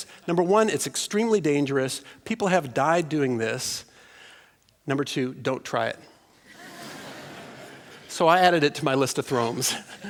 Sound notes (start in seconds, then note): 6.4 laughter